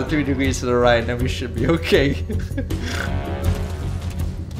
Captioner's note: nervous chuckle